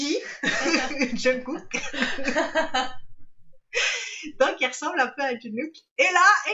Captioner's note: laughs